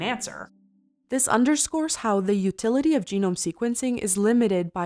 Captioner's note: voiceover